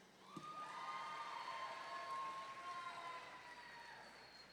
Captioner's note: audience members cheering